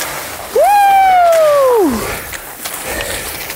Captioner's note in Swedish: Jubel